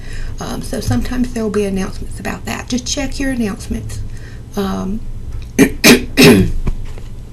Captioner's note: clears throat